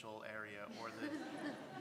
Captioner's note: laugh